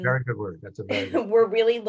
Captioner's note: chuckles